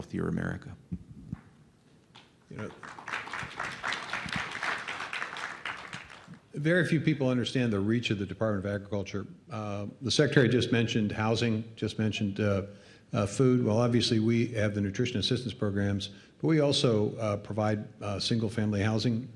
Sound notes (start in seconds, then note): 2.5 applause